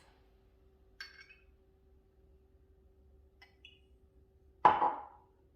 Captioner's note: glass clinking